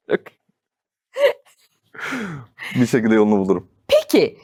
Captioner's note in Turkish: kahkaha